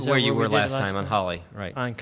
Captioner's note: multiple voices speaking